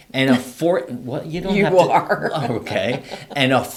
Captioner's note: laughs